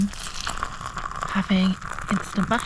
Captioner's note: slosh